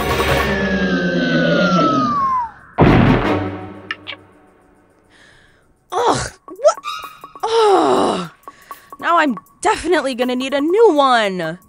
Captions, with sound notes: (Puto Monster rumbling) (Palabok crashes) Ugh, what? Ugh! Now, I'm definitely gonna need a new one.